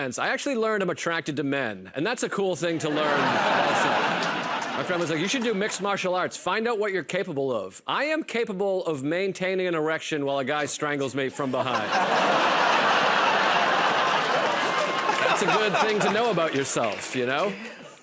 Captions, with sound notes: I actually learned I'm attracted to men, and that's a cool thing to learn. My friend was like, "You should do mixed martial arts. Find out what you're capable of." I am capable of maintaining an erection while a guy strangles me from behind. [ Laughter and applause ] That's a good thing to know about yourself, you know?